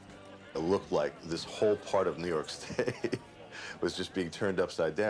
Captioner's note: laughing